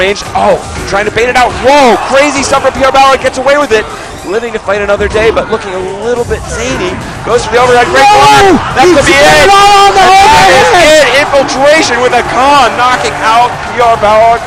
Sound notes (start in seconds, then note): 9.6 crowd screaming